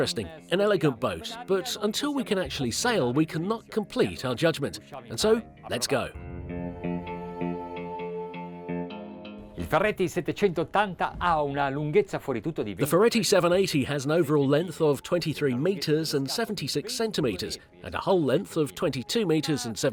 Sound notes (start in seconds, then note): 6.9 relaxing music; 9.9 speaking in foreign language